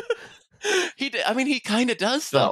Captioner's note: laughs